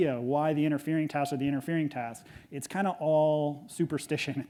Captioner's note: none